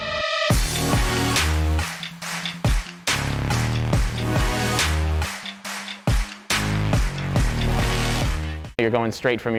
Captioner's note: car sounds